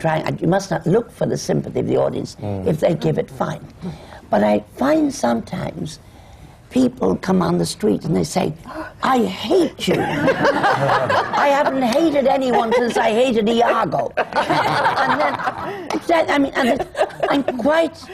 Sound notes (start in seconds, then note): 9.9 laughter; 14.1 laughter